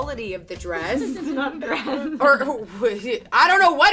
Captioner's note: laugh